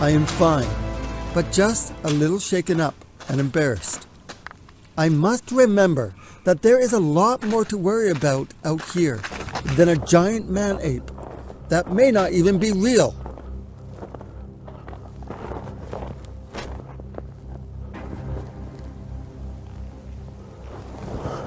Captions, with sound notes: Estoy bien, pero solo un poco conmocionado y avergonzado. Debo recordar que hay mucho más de qué preocuparse aquí fuera que un hombre-mono gigante que puede que ni siquiera sea real. (nieve crujiendo) (música misteriosa)